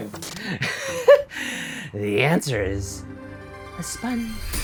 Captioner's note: chuckles